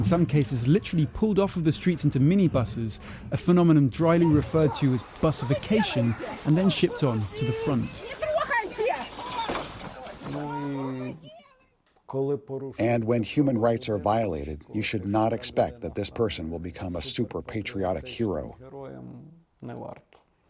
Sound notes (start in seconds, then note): 13.3 through translator